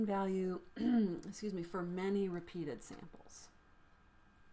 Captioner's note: clears throat